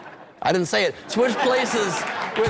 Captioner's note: laughter